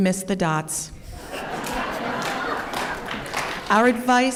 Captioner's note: laughter